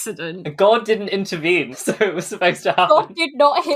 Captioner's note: laughing